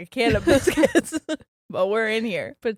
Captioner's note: both giggles